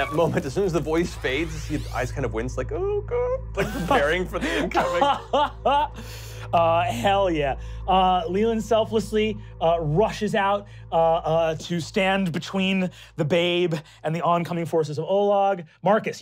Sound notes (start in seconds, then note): 3.6 crying; 6.1 laughing